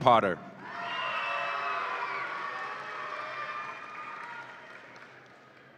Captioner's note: audience applauds and cheers